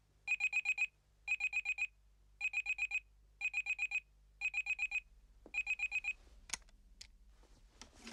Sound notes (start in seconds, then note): 5.6 Звуковой сигнал продолжается